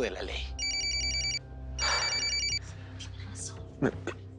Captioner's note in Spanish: Suena el celular